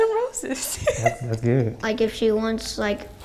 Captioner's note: girl laughing